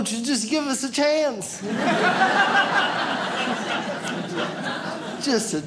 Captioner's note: audience laughs